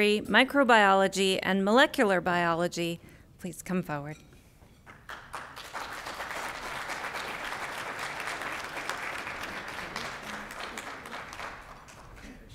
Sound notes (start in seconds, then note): 4.9 applause